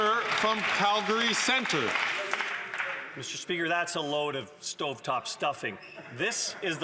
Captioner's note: some Applause